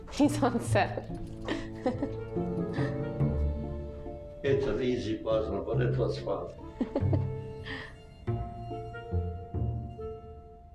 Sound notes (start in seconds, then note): 1.4 chuckles